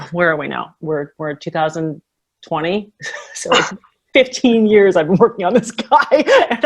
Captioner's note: laughs